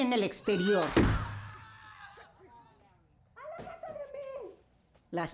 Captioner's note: yelling, screaming